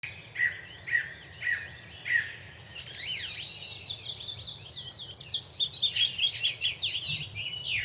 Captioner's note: nature sounds